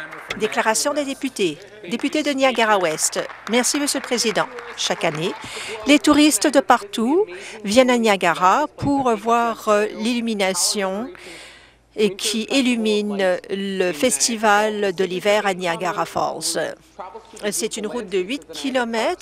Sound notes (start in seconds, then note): 1.9 applause